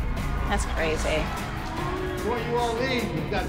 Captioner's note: audience booing